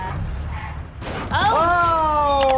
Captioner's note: car thuds